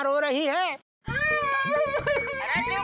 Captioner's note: fake crying